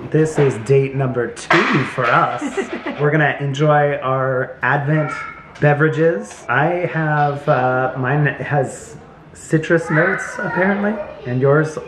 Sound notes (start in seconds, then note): 2.2 chuckles